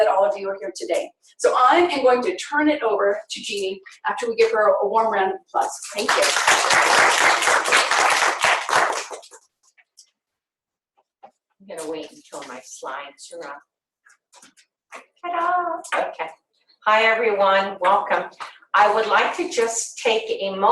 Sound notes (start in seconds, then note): 5.9 applause